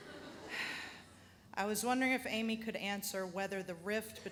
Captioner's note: audience laughs; sighs